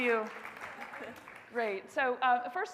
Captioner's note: audience applauding